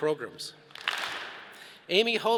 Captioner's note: all clap